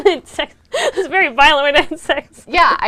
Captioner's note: laughs